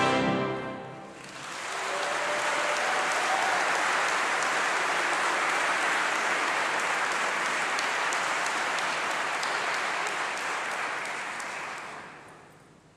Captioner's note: applause